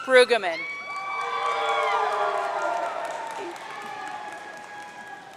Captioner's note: audience cheering